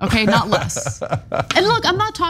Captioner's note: laugh